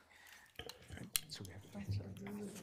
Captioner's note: whispering; regents chattering indistinctly